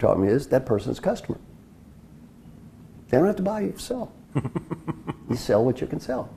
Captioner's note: laugh